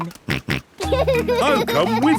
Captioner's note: snorts and laughs